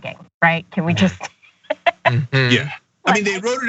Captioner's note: laugh